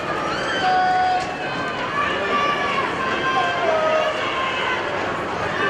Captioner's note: indistinct conversation